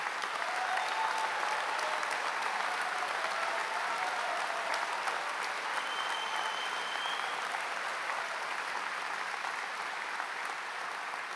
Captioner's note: applause